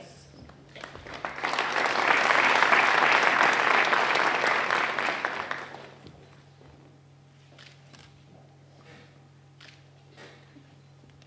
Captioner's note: applause